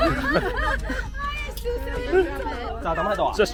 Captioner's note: dying of laughter!